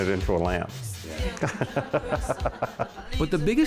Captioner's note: laughing